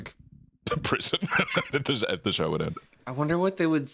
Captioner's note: laughs